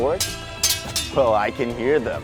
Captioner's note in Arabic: أصوات السيف